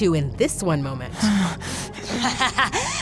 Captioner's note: groaning; laughing